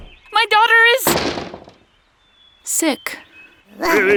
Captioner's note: door slams